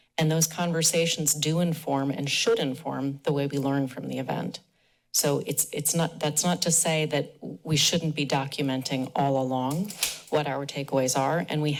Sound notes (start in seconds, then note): none